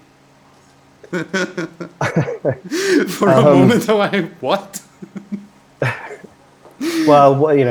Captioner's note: laughter